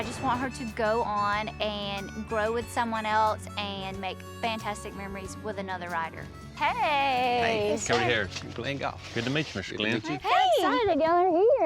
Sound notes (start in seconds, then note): none